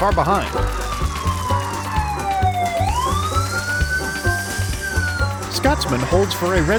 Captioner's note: police siren